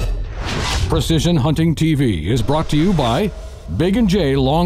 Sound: voiceover

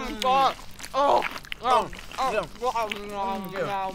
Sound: both grunting

